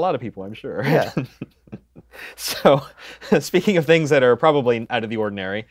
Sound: laughs

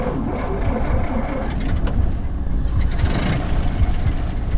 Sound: engine revving

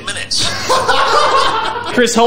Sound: laugh

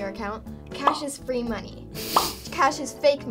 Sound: bubble pops

